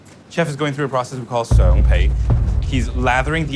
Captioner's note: speaks in foreign language